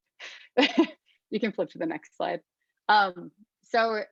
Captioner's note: laughs